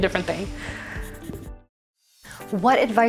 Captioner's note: pencil scratching